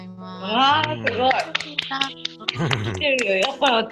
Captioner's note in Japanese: 拍手